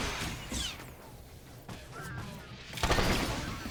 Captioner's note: gun firing